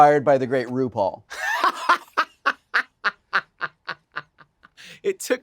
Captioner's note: Wilson laughing